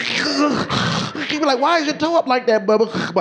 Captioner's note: snorting